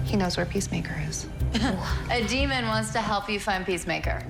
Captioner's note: Nicole chuckles